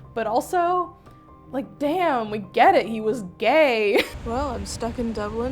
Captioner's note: laughing